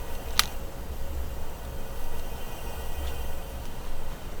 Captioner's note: lighter clicks